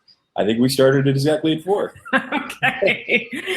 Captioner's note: laughter